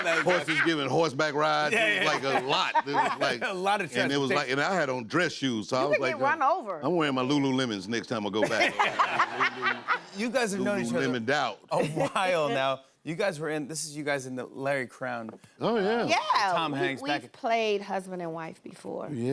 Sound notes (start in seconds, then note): 8.4 laughter